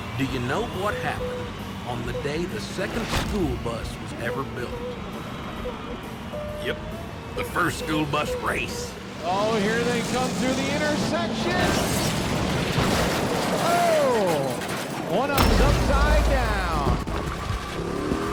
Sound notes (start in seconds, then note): 11.8 buses crashing; 18.0 engines revving